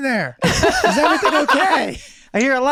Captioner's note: all laughing